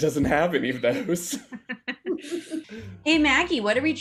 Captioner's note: laughs